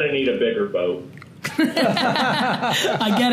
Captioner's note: group laughter